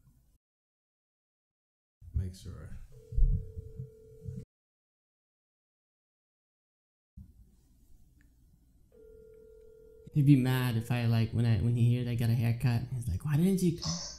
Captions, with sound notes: Make sure *phone ringing* *phone ringing* He would be mad if I like.. when he hear I got a hair cut, he’s like why didn’t you..